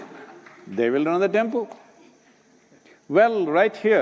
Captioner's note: laughter